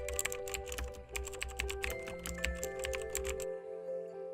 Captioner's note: keyboard clicks